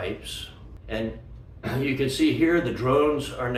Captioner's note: clears throat